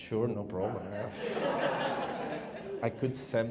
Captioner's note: laughing